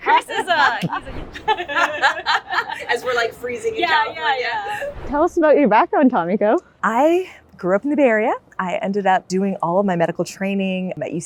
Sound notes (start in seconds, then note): 1.2 both laughing